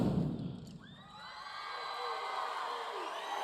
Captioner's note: audience cheering